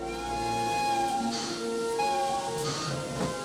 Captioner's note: train whistle